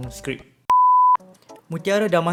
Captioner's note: beep